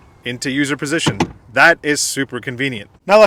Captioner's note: seats clicking